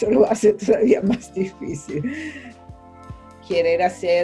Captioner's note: laugh